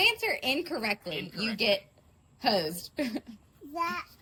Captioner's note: laughs